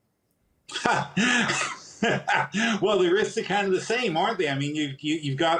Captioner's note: laughs